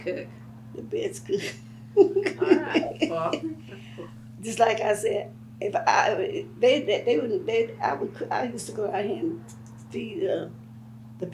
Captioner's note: laughs